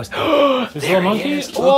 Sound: gasping

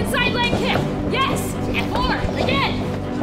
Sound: grunting

